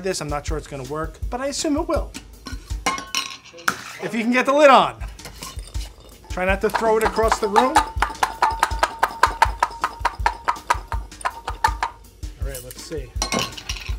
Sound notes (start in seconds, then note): 7.9 jar clattering